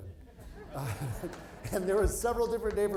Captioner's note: audience laughing